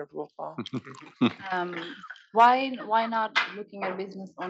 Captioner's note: laugh